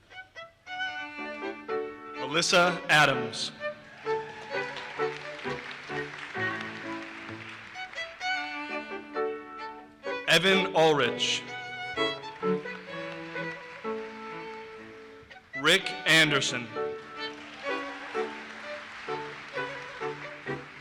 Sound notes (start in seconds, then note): 0.2 violin music; 3.8 audience cheers and applauses; 11.9 audience applauses; 16.8 audience applauses